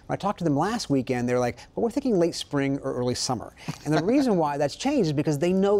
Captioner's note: laughter